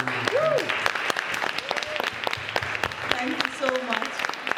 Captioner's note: applause